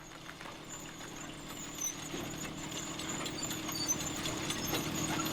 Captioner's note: tractor engine rumbling